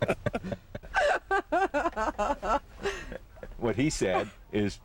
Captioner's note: woman laughs